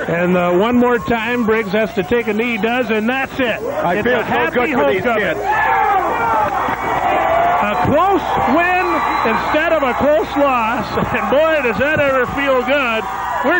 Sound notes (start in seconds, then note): 6.3 players and fans cheer